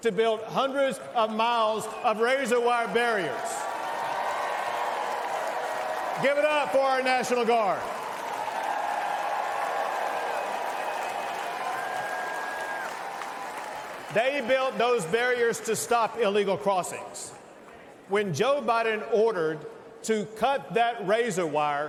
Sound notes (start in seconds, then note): 7.5 cheers and applause